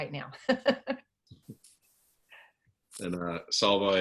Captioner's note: laughing happily